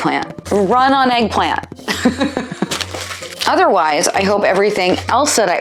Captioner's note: laughs